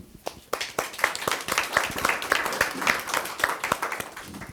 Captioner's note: audience applauding